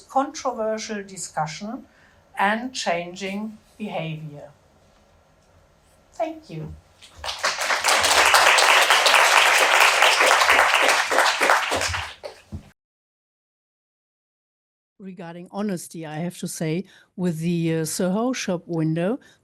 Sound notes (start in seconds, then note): 7.0 audience applauding